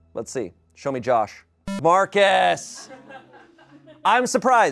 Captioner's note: electronic beep